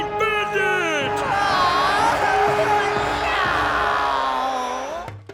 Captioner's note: groaning